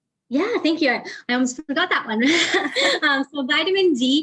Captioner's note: laughs